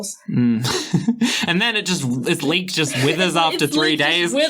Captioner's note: laughing